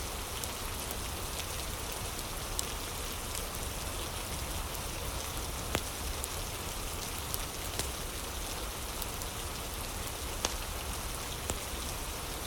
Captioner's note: fire crackling